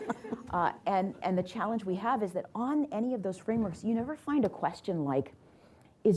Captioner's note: laughter